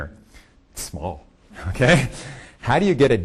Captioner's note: laughing